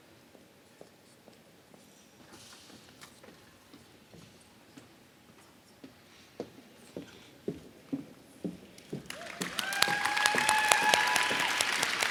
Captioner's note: applause